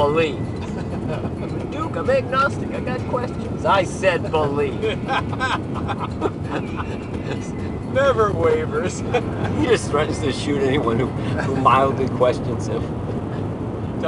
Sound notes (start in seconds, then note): 0.6 laughter